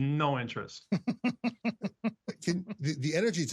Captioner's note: laughter